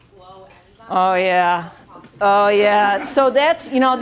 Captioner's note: laughing